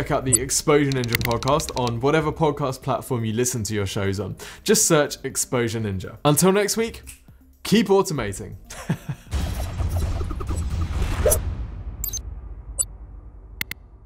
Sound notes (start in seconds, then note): 8.7 laughing